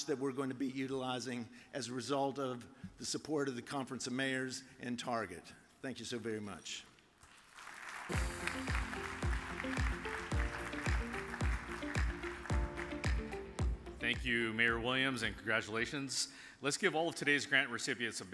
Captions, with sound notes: that we're going to be utilizing as a result of the support of the Conference of Mayors and Target. Thank you so very much. (audience applauds) (upbeat music) - Thank you Mayor Williams, and congratulations. Let's give all of today's grant recipients